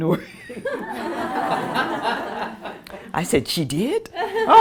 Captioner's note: laughter